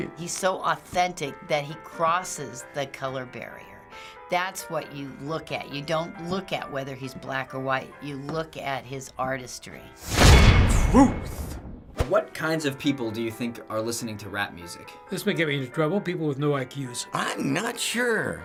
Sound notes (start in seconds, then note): 10.2 clang!